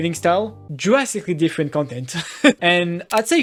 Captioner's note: laughs